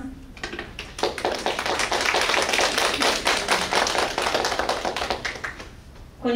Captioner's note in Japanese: 拍手